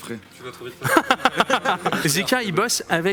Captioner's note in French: rires